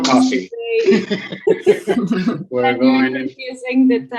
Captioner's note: laughs